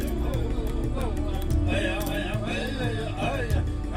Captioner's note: chanting